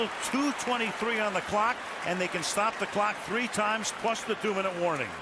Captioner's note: pa announcement